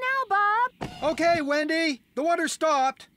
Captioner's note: shouting